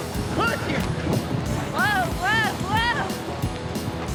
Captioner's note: fast hoof beats